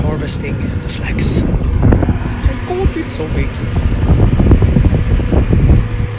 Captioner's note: harvester reaping; wind howling